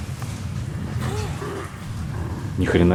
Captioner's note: sound cough